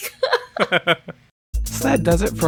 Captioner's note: laughs